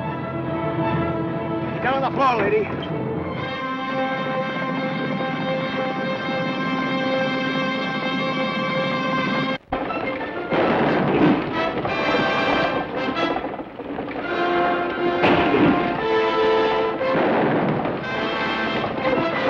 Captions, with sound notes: - Get on the floor, lady. (dramatic orchestral music) (hooves thunder) (guns fire) (gun fires)